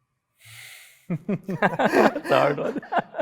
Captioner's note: laugh